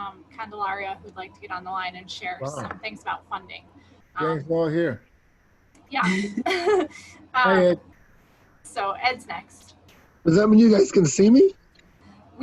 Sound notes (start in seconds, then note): 6.0 laughing